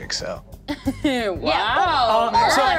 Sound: laughs

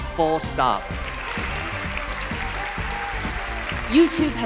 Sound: applause

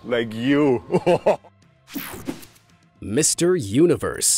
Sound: laughing

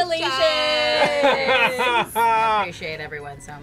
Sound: laughs

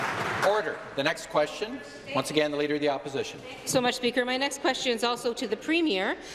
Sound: applause

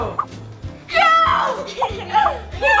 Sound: whooshing sound

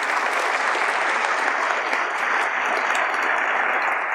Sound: audience applauds

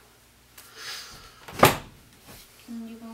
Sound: door closes

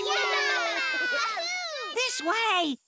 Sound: cheering

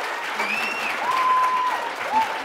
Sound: applause

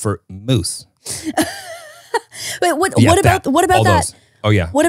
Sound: laughing

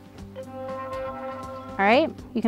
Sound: tone ringing

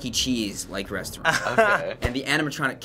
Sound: laughing

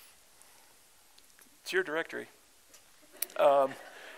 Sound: laughter

